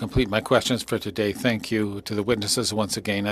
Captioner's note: speaking French